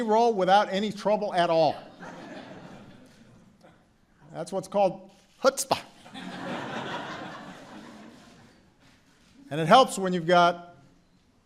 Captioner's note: laughter